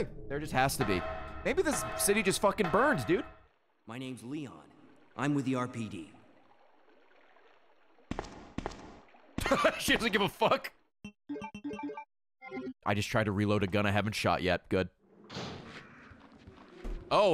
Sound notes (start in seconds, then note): 9.4 laughs